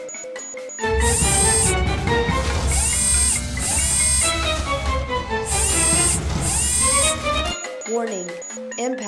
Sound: machinery whirring

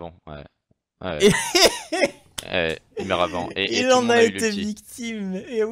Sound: laughs

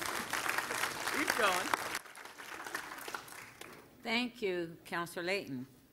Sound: cheers and applause

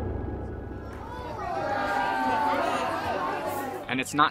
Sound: crowd gasps

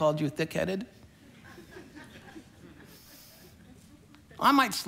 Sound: congregation laughing

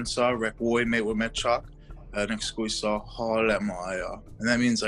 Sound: speaks in foreign language

